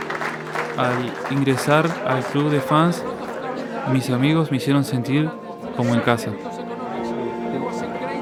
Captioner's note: in Spanish